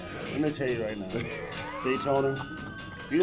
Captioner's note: Hulk chuckling